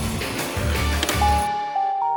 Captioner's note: remote clicking; chiming